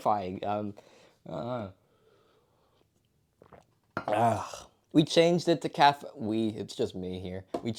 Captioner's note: muffled sip